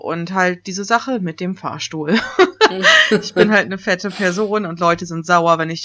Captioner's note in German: sarkastisches lachen